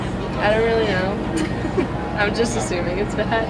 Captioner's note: laughs